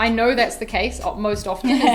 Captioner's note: laughter